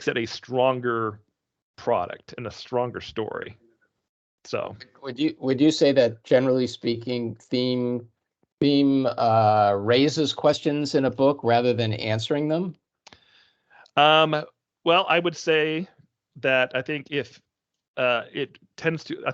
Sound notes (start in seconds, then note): none